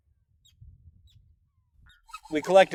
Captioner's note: birds chirping